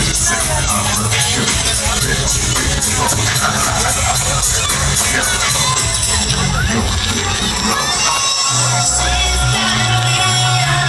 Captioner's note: hahaha